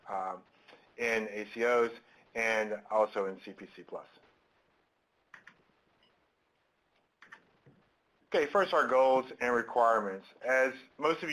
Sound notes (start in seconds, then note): 3.0 silence